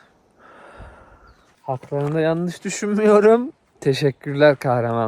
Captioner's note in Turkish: iç çeker